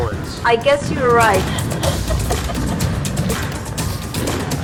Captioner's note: fireworks Sounds